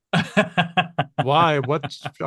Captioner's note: laughs